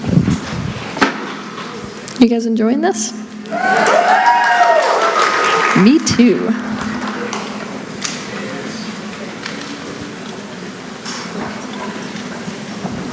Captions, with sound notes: You guys enjoying this? [Cheering] Me too.